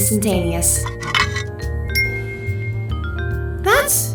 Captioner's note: places bowl down, instant chime